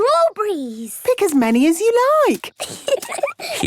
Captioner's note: giggling